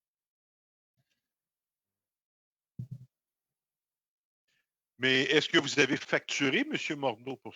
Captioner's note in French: voix de l'interprète